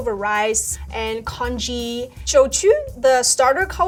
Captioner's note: speaking Chinese